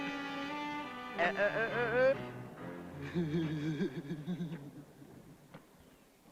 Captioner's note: uuh - laugh